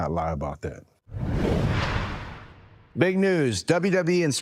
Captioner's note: logo whooshing